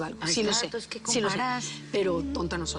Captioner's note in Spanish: Hablan al unísono